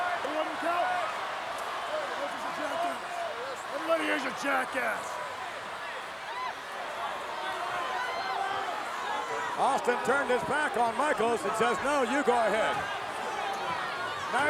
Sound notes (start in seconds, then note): 5.3 crowd yelling